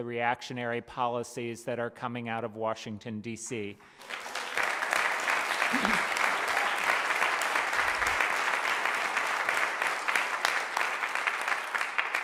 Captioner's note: applause